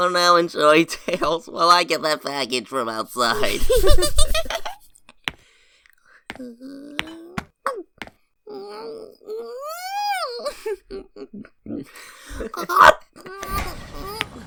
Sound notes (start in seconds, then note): 3.3 giggles; 10.0 happy eating noises; 13.0 chuckles